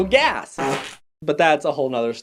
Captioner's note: fart noise